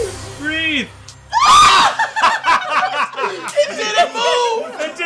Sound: shrieks; laughing

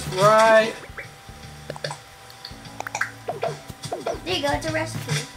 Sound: button clicks

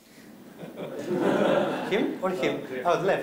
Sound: laughter

